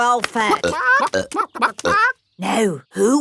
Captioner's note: clucking